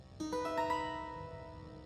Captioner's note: phone ringing